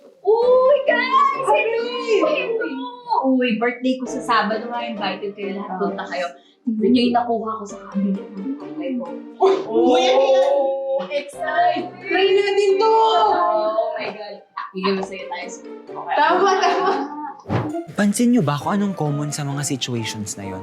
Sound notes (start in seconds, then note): 14.0 talking excitedly